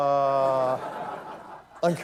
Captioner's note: laughter